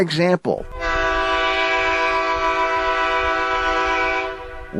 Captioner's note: horn blasts